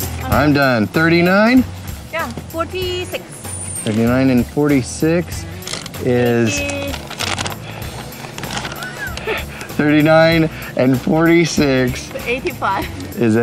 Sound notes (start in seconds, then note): 5.4 laughs